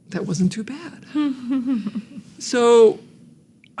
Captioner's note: laughs